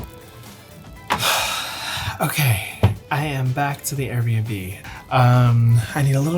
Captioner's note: sighs